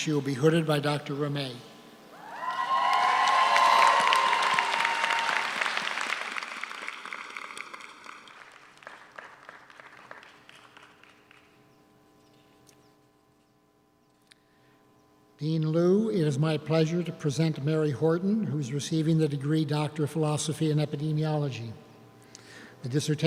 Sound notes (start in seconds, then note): 2.2 audience cheers; 2.3 audience applauds